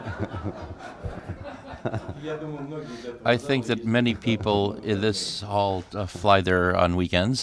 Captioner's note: laughter